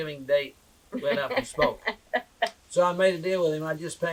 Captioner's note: laughter